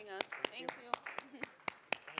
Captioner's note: applause